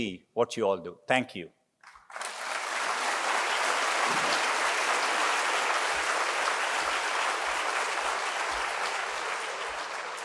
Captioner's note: applause